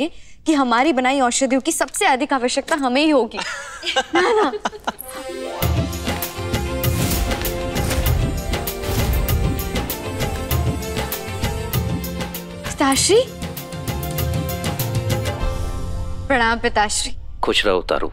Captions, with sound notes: and I will need these medicines the most. [laughing] [melodic music] Father. - Greetings, father. - Stay happy, Tara.